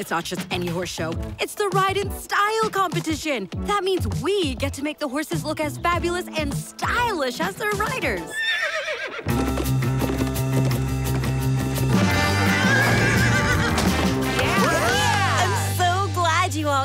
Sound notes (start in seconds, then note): 8.2 neighs; 14.0 all cheer